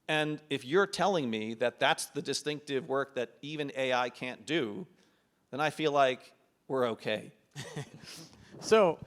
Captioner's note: laughs